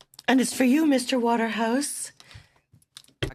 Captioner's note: speaking French